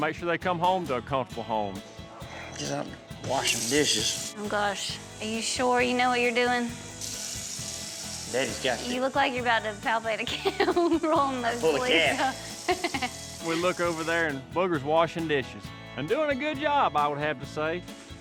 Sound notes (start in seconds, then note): 3.8 water runs